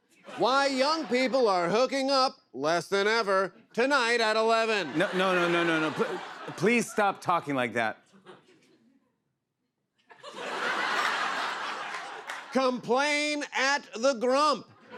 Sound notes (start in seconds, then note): 10.0 laughter